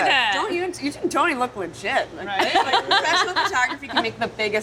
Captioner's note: laughing